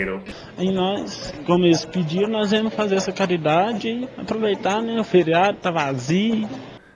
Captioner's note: man speaks with thick accent